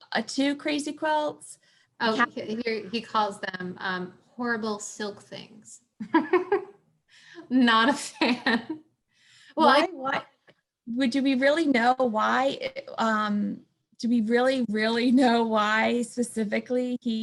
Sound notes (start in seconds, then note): 6.0 laughter